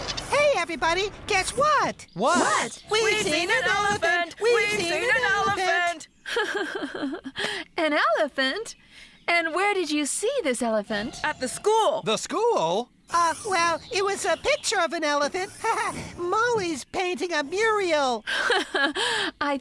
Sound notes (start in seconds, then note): 3.8 singsong; 6.2 laughing